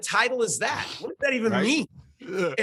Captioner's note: laughs